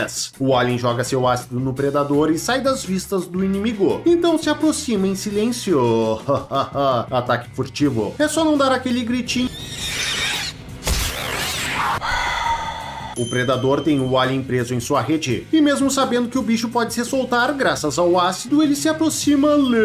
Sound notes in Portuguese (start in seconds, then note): 11.8 respirada profunda